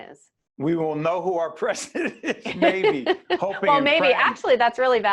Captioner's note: laughing